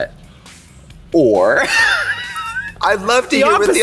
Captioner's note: laughs